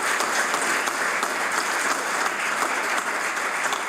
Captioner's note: applause